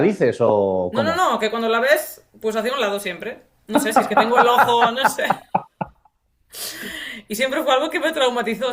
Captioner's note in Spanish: risas; resoplido